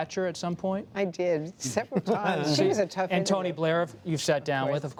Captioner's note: laughter